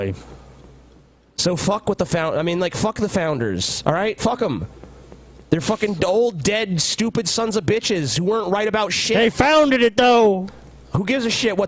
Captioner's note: redneck voice